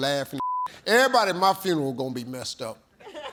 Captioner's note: beep